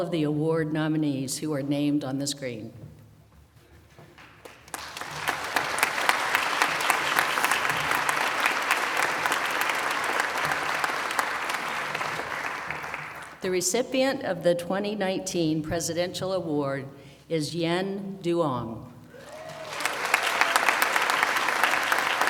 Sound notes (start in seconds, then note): 9.8 applause